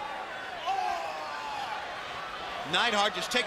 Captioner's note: crowd cheering